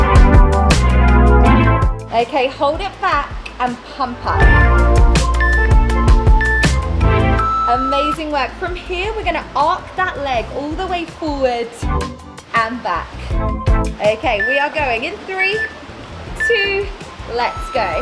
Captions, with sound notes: Okay, hold it back and pump up. (timer beeping) (waves whooshing) Amazing work. From here, we're going to arc that leg all the way forward and back. Okay, we are going in three, two, let's go.